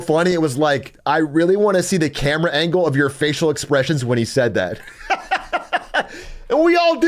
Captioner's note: laughs